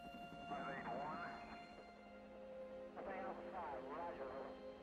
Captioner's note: radio chatter